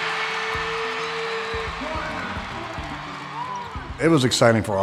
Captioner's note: crowd cheers